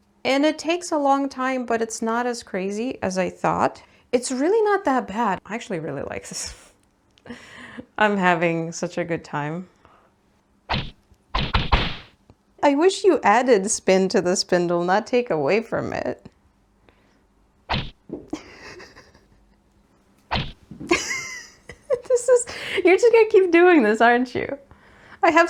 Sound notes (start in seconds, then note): 8.0 giggles; 10.7 cartoony whacking noises; 17.6 whack and giggles; 20.3 whack and laughter